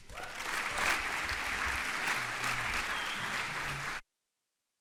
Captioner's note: audience applauds